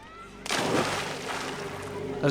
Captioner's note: beachgoers chattering